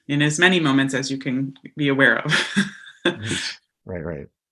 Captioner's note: laughs